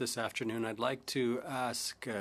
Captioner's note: speaking French